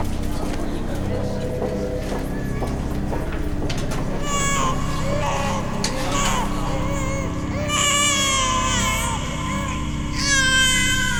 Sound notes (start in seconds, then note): 4.2 baby crying